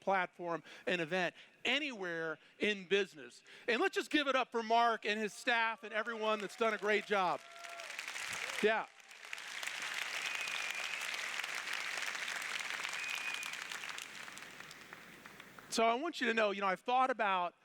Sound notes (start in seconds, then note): 6.2 applause